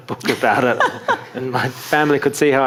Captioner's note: audience laughing